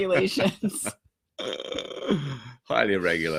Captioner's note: laughing